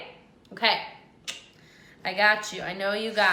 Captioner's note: tongue clicking